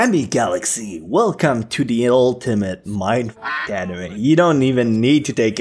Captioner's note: quack